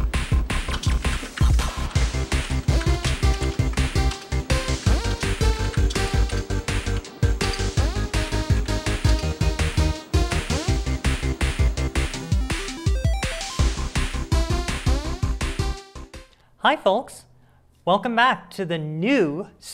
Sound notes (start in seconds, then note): 0.0 humm; 0.2 sounds of typing; 2.1 more sounds of typing; 5.9 more sounds of typing and missing keys